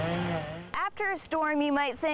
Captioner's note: chain saw buzzing